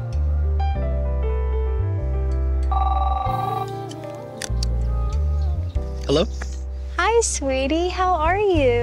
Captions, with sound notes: [phone rings] Hello? Hi, sweetie. How are you?